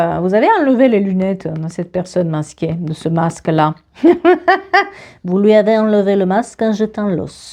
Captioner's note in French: rires